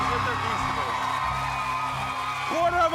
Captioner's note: cheers and applause